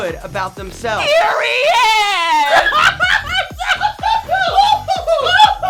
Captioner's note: excitedly yells and shouts